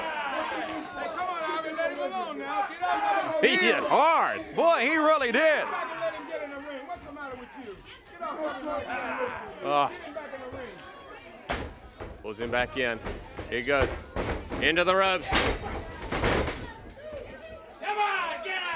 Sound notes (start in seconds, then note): 0.1 crowd chatter; 7.3 crowd chatter